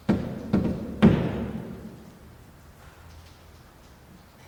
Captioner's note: loud knocking